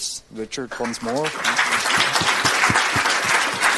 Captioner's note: clapping